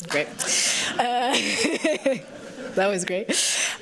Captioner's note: laughter